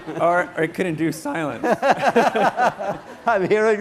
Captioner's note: laughter